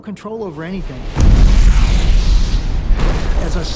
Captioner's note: booming explosion